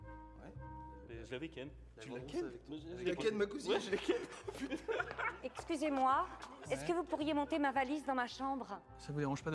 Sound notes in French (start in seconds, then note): 3.6 rires